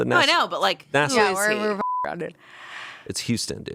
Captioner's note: beep